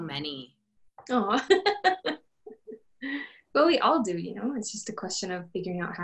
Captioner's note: laughter